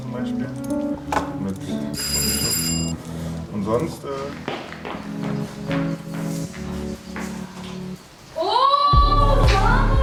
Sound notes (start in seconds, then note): 2.0 doorbell; 4.0 footsteps